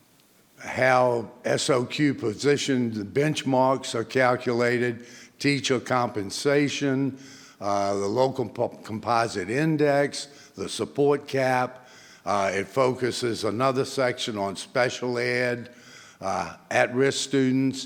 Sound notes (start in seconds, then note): none